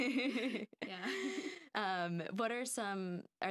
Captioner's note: laughing